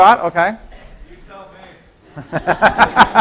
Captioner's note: laughing